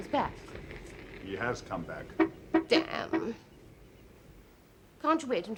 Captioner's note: noise of car entering; car claxon honks